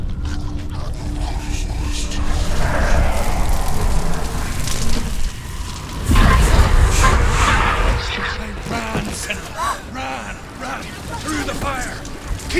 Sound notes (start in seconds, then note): 0.1 distorted sound of snarling, growling; 6.0 loud burst of noise